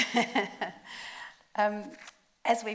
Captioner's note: laughs